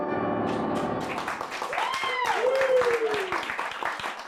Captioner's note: crowd cheers